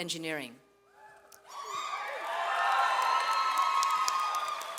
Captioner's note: audience cheers